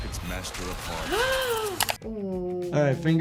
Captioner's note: gasps